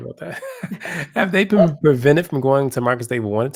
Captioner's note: laugh